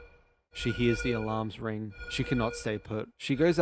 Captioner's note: alarm sound